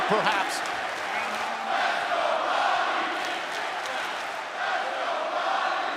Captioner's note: crowd cheering